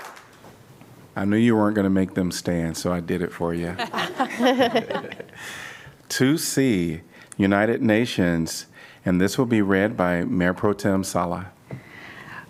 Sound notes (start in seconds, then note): 3.7 laughter